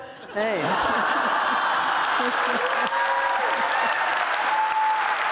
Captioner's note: cheers